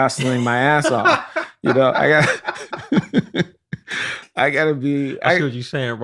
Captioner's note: laughter